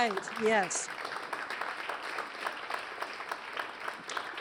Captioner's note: applause